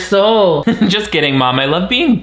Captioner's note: chuckles